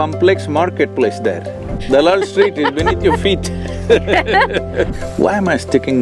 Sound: Juhi Chawla laughs; both Laugh

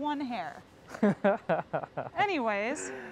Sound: laughing

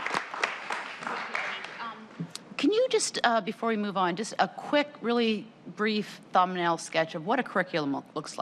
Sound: applause

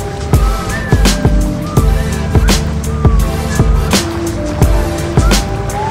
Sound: whistling sound

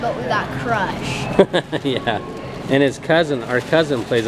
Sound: laughing

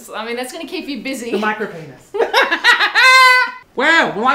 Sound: laughs

